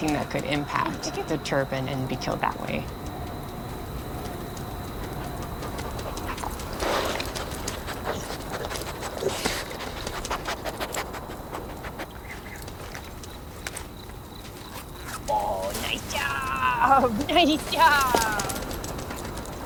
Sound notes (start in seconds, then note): 4.6 dog sniffing; 14.9 opening bag zipper; 18.4 dog running